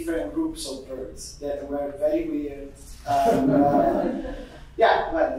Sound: audience giggling

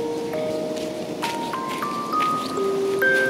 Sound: sound of walking

